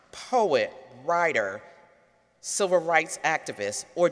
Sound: none

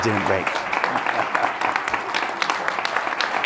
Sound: applause

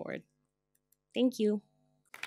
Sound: applause

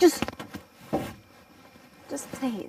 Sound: rustling sound

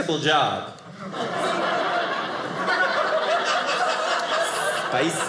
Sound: audience laughing

